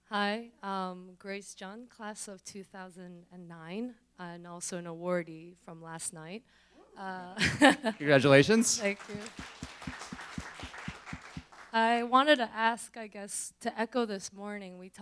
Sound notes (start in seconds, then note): 7.0 laughs; 9.7 applauding